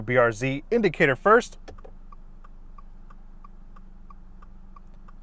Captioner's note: signal clicking